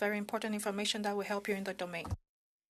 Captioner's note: speaking in French